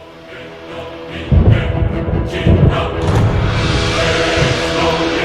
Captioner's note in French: Musique apocalyptique; grondement d'orage; Musique apocalyptique